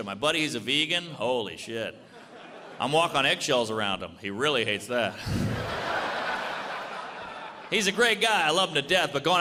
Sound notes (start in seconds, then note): 2.0 audience laughs; 5.2 audience laughs